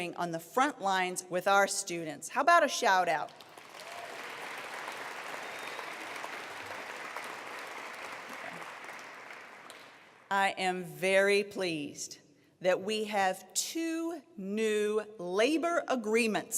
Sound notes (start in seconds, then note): 3.2 applause